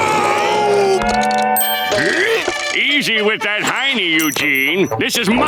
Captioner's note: grunting